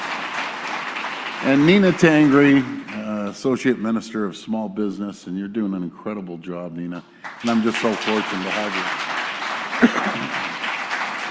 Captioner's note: applause